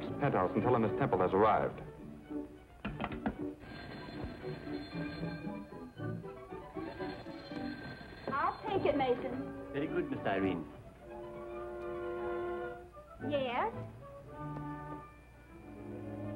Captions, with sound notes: an ar (phone ringing) - I'll take it Mason. - Yes.